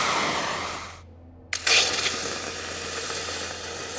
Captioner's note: hissing, bubbling